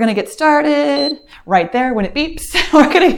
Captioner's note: timer beeps